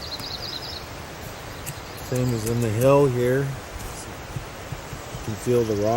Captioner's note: tap tap